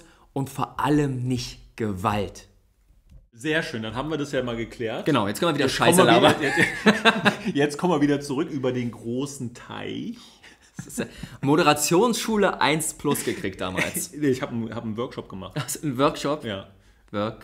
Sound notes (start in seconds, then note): 6.0 laughs; 15.1 laughs